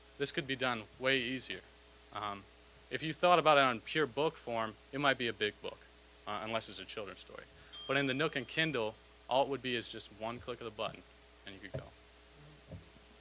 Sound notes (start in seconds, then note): 7.7 bell dinging